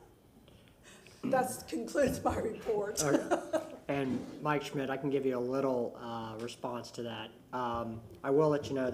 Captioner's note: laughter